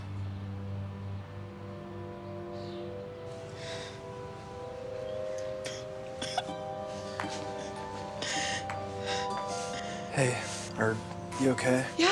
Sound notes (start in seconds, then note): 0.2 somber music; 6.1 Lily sobs